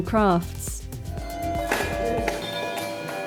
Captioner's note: handbells